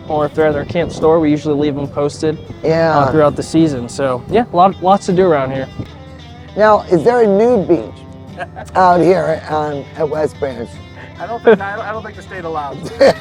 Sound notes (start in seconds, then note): 8.3 laughing